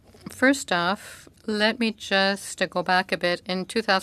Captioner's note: speaking French